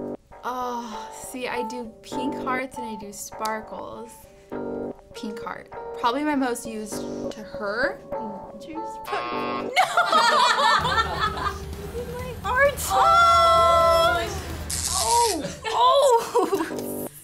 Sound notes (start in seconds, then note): 9.7 laughs; 14.4 electricity crackles